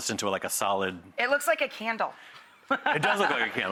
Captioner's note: laughing